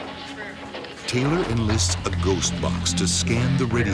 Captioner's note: voiceover